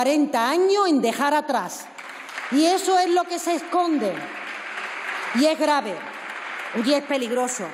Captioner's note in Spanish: Aplausos